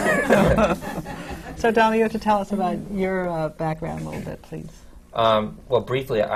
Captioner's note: laughter